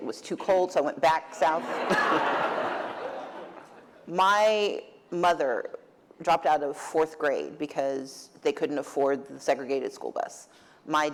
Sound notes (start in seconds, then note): 1.5 laughter